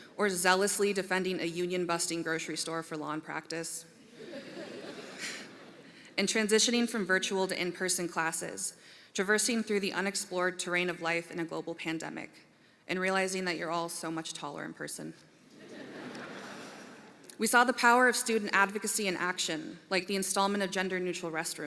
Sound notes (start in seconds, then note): 4.1 laughter; 15.5 laughter